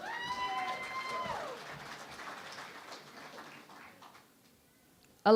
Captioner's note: cheering and Applause